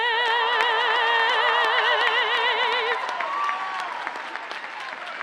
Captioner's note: audience cheers and applauds